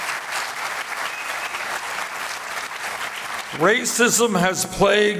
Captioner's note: applause